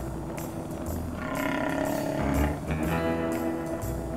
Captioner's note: stomach growling